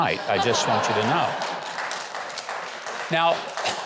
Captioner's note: audience clapping